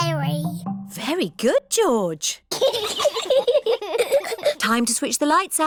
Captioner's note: both giggle